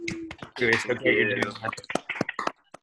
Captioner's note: students applauding